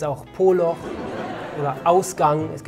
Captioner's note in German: Lachen